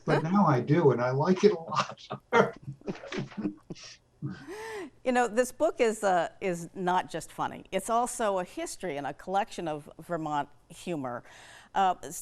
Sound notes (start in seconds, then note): 2.6 laugh